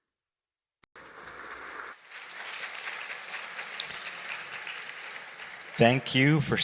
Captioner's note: applause